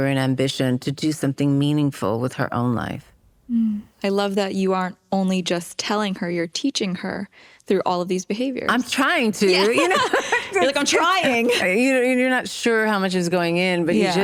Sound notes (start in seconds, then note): 9.4 laughter